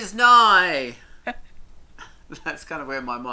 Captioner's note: laughs